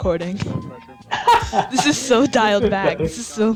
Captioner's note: laughing